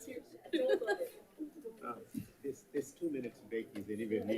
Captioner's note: light chatter